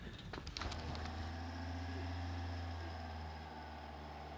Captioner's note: truck engine roaring